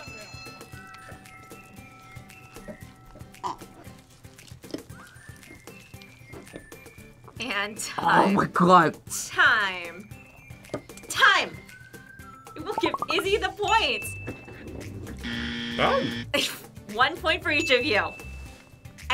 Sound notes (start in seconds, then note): 0.0 bell rings; 15.2 buzzer; 17.6 ding